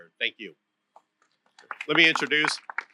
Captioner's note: applause